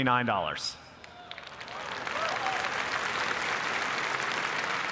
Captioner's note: applause